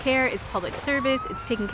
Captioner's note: siren blaring